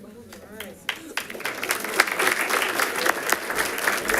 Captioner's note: audience clapping